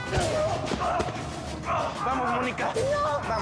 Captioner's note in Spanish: Quejido; Grito